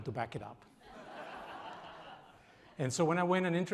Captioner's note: audience laughs